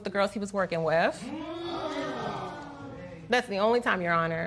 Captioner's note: spectators exclaim